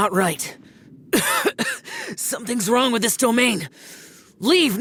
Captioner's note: cough